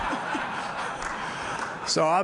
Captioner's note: laughter